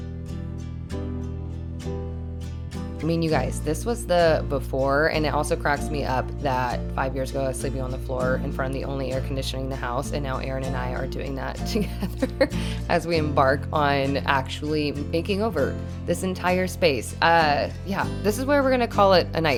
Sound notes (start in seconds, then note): 11.8 chuckles